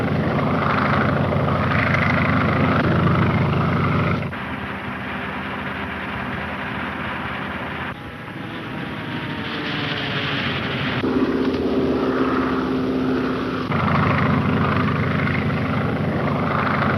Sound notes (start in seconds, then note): 6.8 engine puttering